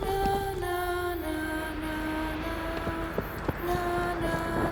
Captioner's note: wind blows